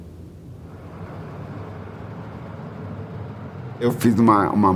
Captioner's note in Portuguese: som do vento; barulho de carros